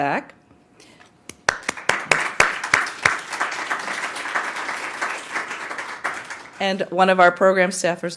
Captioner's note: applause